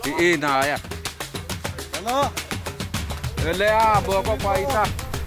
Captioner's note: hunters speaking tribal language